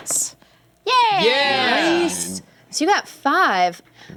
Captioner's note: cheering